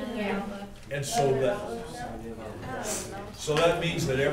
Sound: background Discussion

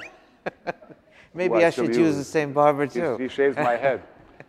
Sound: laughing

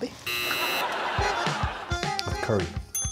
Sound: buzzer dings

